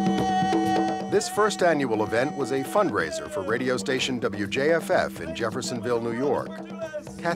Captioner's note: humm